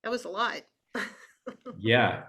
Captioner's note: chuckles